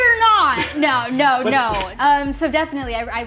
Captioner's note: chuckles